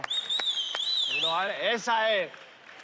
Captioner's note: whistles